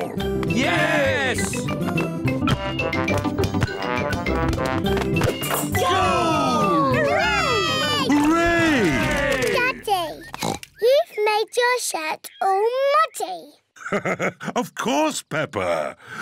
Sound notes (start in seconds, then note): 10.3 oinks; 13.8 laughs